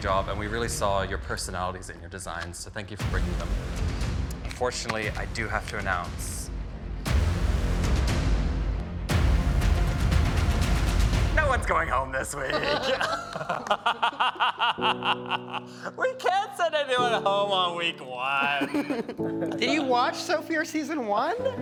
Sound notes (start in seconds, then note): 6.3 tense suspense music continues; 12.4 all chuckling